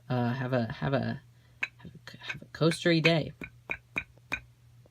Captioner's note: tap tap tap; tap tap tap tap